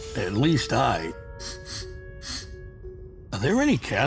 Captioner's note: sniffs air